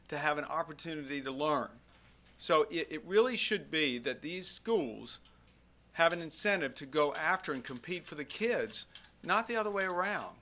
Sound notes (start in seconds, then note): none